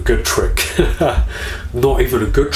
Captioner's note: laughing